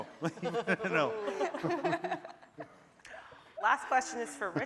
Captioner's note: laughing